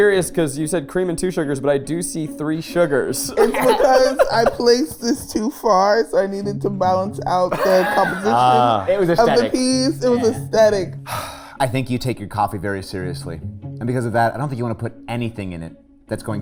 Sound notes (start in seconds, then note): 3.2 laughing; 11.0 sighs